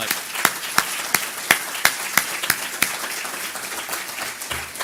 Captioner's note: audience applause